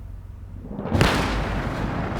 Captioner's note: gunfire